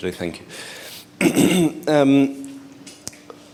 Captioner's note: clears throat